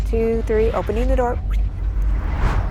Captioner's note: whoosh